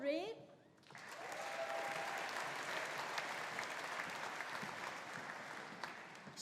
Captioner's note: audience applauding; audience cheering